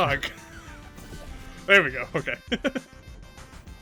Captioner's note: laughs